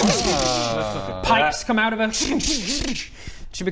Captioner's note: zzng zzzn zzngsh